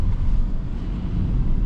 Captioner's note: car engine